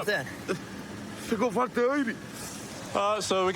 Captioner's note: speaking spanish